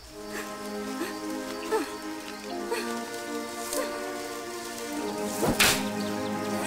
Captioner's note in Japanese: 息切れ